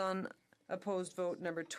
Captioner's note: speaking French